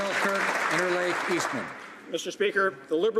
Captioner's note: some Applause